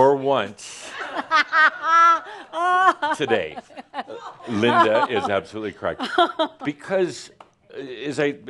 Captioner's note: laughs loudly